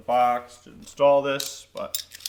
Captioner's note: metal clinking